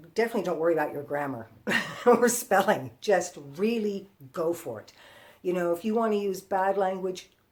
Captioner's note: laughter